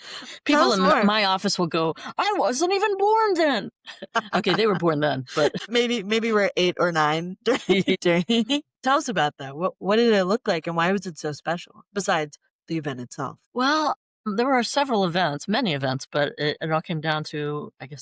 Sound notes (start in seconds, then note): 3.8 laughter